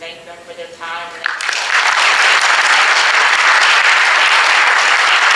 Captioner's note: audience applauding